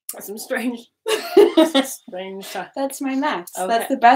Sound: laughing

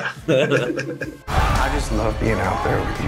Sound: laughter

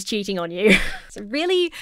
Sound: chuckles

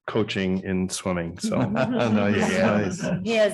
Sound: audience laughing

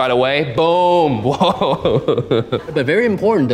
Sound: laughs

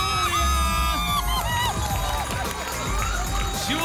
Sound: applause and cheering

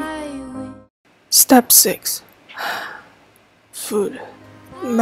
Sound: sigh

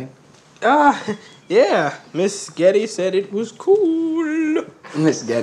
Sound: chuckles

